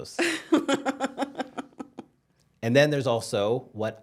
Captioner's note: laughs